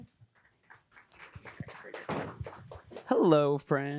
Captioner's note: applause